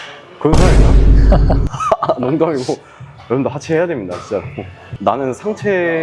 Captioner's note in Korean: 웃음